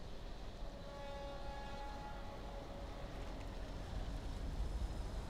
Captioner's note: train horn blares